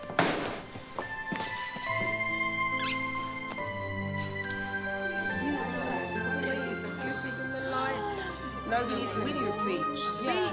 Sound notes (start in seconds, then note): 0.1 bag thudding; 1.3 uplifting music; 3.0 lips smacking